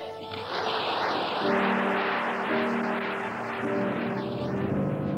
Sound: audience applauds; somber music

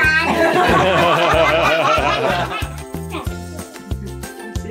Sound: laughes

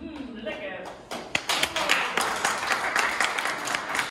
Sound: clapping

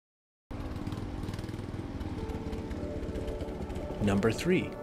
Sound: motorcycle roaring

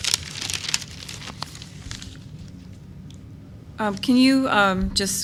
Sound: paper's rustling

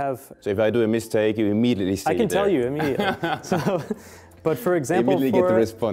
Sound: laughing

